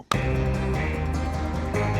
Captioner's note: claps hands